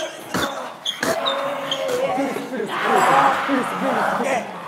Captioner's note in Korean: 연신 울려대는 괴성